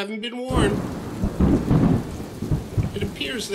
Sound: thunder

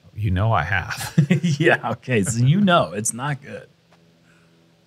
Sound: laughs

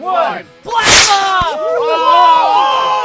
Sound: loud cheering; rockets whirring

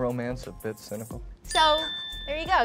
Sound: bell dings

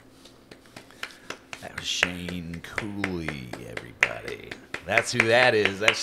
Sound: clapping

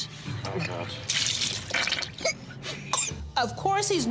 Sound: gags, coughs

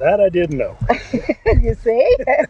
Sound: laughing

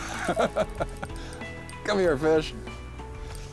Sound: both laugh

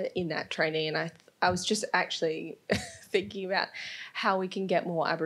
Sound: laughs

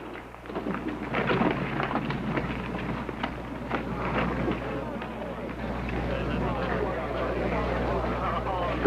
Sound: crowd noise

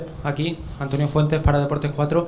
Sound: Spanish

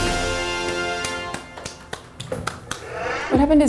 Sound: clapping

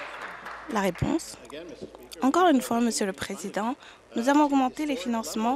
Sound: applause

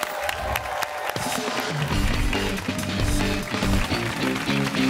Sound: cheers and applause

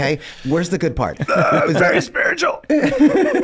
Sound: groans

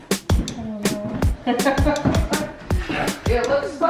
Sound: upbeat music; woman laughs

